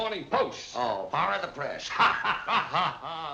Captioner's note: laughing